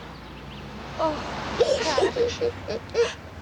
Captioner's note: christine cries